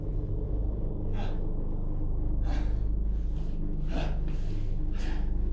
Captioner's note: labored breathing